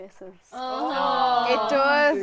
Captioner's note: collective groans